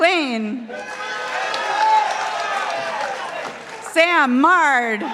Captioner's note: participants applauding